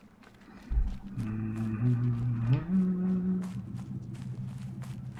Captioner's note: humming